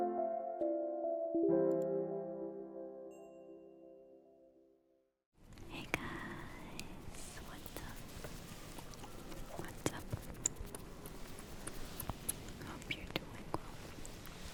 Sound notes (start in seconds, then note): 10.3 kisses